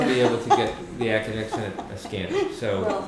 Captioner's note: laughter